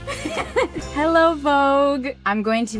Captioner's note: laughs